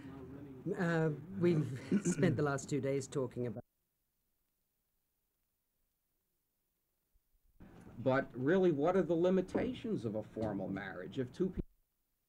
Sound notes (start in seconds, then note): 4.0 silence; 12.0 silence